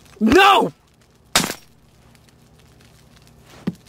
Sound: glass breaks

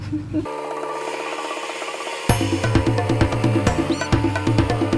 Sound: lawnmower engine

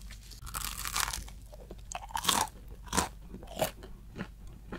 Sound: eating sound

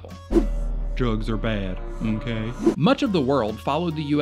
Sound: voiceover

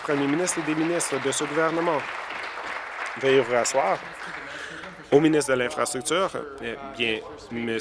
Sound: applause

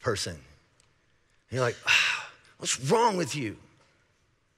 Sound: sighing

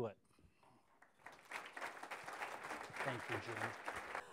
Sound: applause

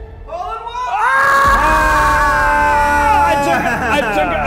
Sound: screaming

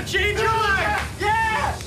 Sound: Mr. Juarez screams

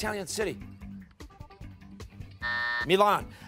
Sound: timer

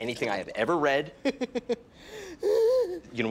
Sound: laughs

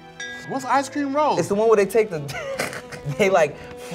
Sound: laughs

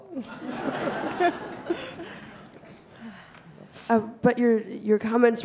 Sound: audience laughing

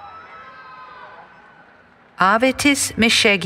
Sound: cheering

